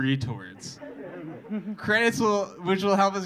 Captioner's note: audience laughing